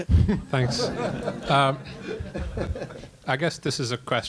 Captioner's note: laughter